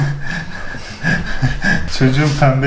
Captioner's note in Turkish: Gülüşmeler